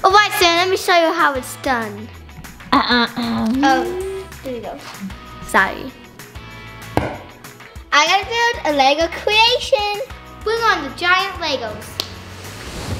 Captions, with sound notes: - Alright Steven, let me show you how it's done. (mother clears throat) Oh, here we go, sorry. - I earned a Lego creation! Bring on the giant Legos.